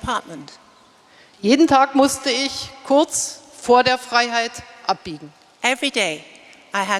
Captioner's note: speaking in German